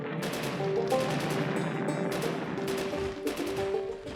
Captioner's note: gunfire; loud explosion